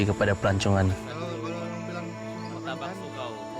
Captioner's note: indistinct chatter